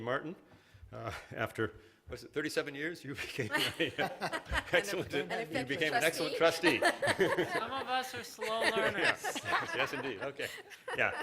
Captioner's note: laughter